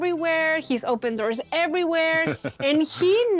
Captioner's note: laughs